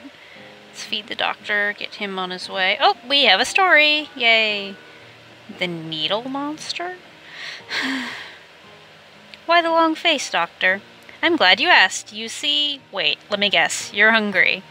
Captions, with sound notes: Let's feed the doctor, get him on his way. Op! We have a story! Yay! "The Needle Monster"? *sigh* "Why the long face Doctor?" "I'm glad you asked! You see-" "Wait, let me guess. You're hungry."